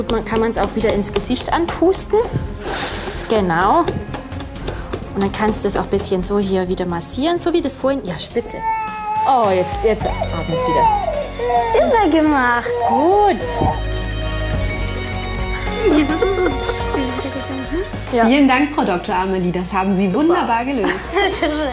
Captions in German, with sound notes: Dann kann man wieder ins Gesicht pusten. (Sie pustet.) Genau. Dann kannst du's ein bisschen so hier wieder massieren, so wie vorhin. Ja, spitze. (Babypuppe weint.) So, jetzt atmet's wieder. - Super gemacht! Gut! (Fröhliche Musik) (Lachen) Vielen Dank, Frau Dr. Amelie, das haben Sie wunderbar gelöst.